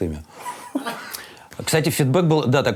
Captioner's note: Dud laughs